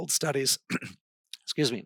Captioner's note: clears his throat